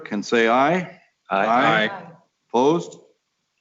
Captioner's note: multiple voices